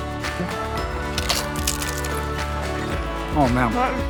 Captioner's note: chips crunching